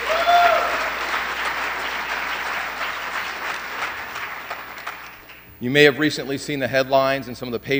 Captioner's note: applause